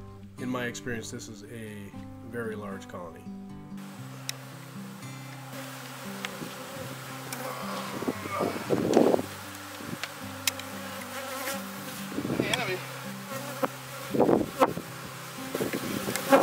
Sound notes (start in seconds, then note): 4.4 bees buzzing